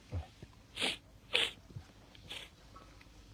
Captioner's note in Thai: เสียงสูดหายใจ